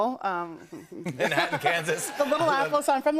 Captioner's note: laughter